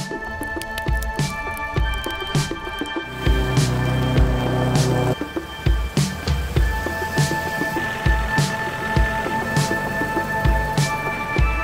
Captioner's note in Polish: Aplauz